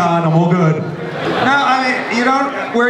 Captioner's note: audience laughs